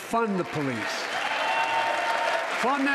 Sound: crowd applauding

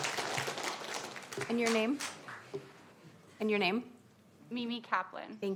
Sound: applause

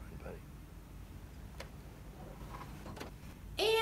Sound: car door opening

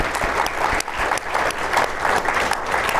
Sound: applause

